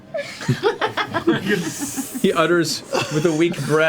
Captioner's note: all laugh